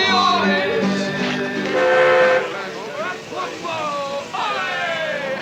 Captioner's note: horn honking